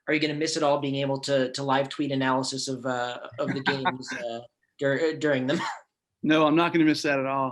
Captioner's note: laughs